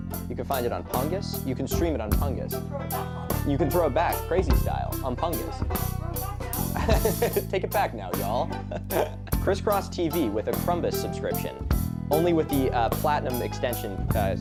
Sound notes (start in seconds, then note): 5.4 laughing